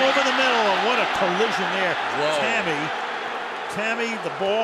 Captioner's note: booing